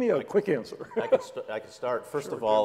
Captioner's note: laugh